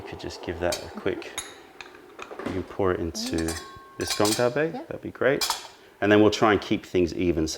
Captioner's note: pour